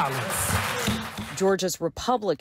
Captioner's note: applause